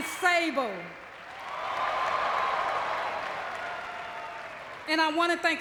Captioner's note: audience cheering